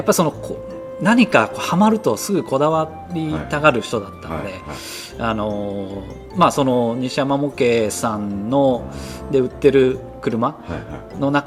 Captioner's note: laughs